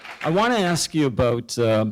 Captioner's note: applause